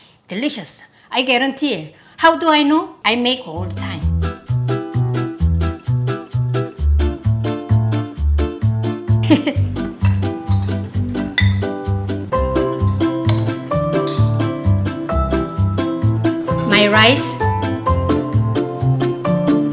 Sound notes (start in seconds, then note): 5.5 bright music; 9.2 giggles